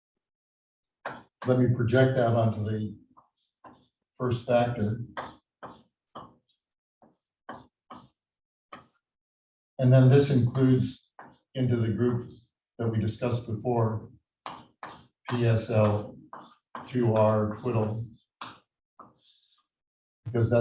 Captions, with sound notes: Then we project that onto the first factor. (chalkboard tapping loudly) And then this includes into the group that we discussed before, PSL 2R twiddle because that's the kind